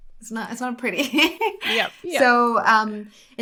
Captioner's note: laughs